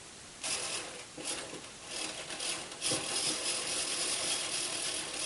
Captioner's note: clockwork motor struggling